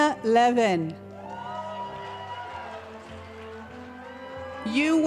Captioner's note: cheering and applause